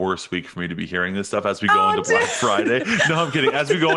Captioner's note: chuckles